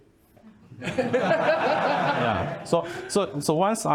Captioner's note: laughing